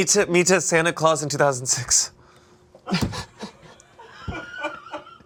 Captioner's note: group laughing